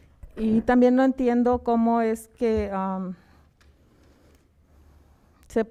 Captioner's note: speaking in foreign language